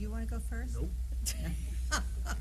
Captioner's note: laughter